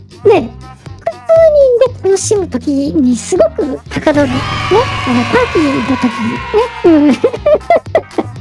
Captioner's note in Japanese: 叫び声; 笑い